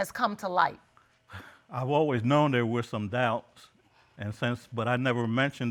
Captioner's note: sighs